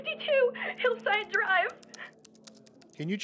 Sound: typing

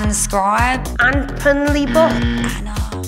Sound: incorrect buzzer

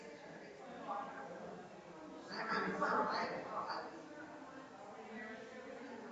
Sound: people chattering distantly continues

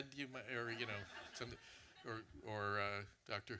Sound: audience laughter

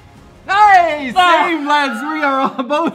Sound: laughs

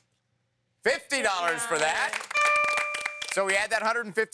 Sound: ding

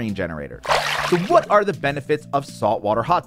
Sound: water splashing

